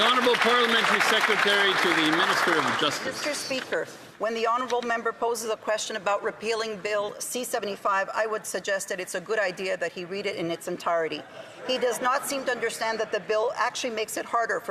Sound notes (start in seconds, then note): 3.0 some Applause